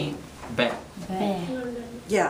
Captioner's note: voiceover